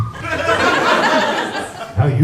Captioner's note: laughter